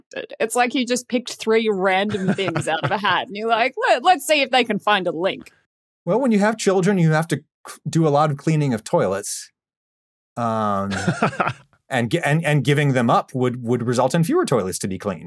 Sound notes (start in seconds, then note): 10.4 laughs